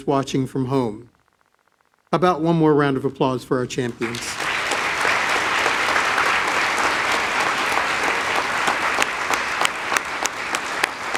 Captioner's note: applause